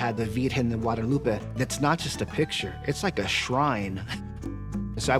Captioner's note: laughs